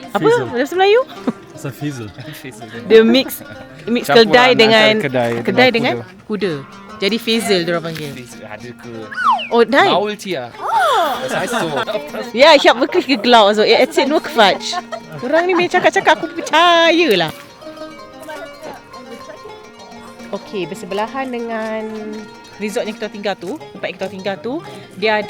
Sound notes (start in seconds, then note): 0.0 speaking German; 8.2 speaking German; 15.2 laugh